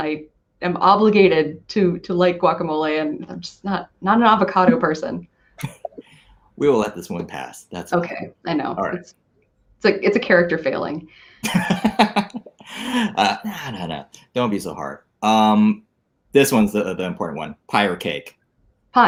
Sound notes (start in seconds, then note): 11.4 laughs